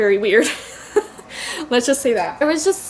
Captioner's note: laughs